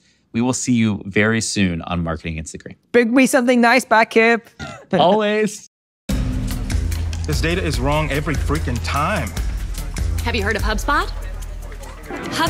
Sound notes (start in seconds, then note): 4.6 chuckling; 6.1 percussive music